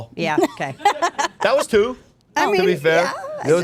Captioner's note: laughing